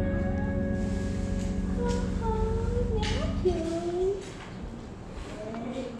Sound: mama speaking softly to baby

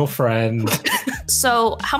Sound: laughs

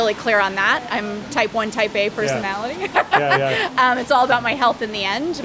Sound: laughs

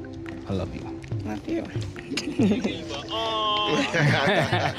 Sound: Yandy chuckles

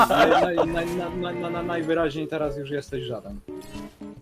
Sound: stutters

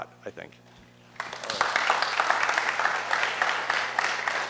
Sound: applause

